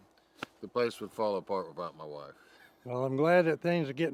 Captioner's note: laughs